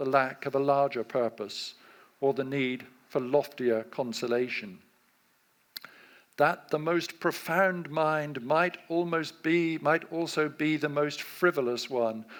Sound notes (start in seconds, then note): none